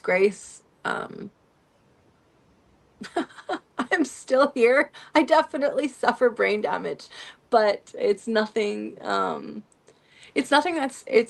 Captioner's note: laughter